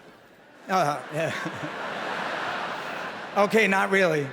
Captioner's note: laughter